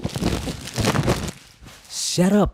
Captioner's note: void crumpling